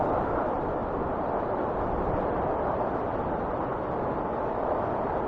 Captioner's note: wind whistling continues